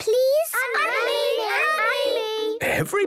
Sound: all calling out

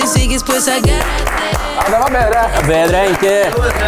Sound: guys clap

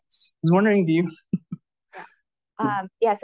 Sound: chuckles

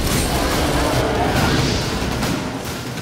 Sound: flames crackle; bellow

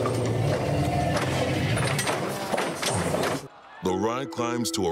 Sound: metal clanking

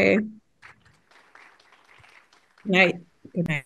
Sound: audience applauding

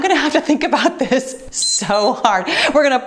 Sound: timer beeps

